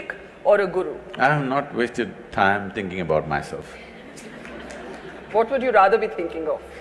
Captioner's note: laughter/Applause